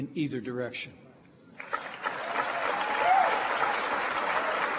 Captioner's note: applause